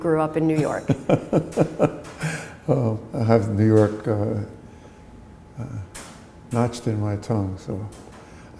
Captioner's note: chuckle